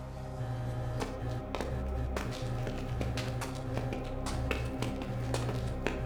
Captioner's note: dramatic music; footsteps treading